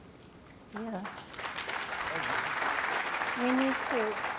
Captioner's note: applause